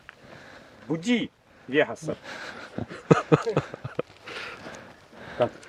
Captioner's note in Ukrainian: сміються